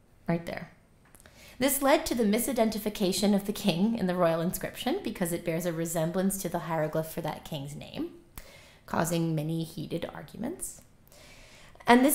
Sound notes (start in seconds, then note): none